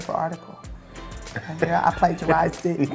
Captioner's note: laughs